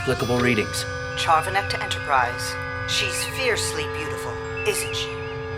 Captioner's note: over comm